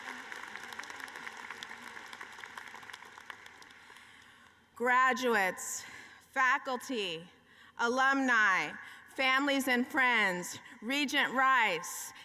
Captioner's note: cheering and applause